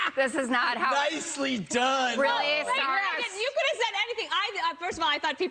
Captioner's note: laughter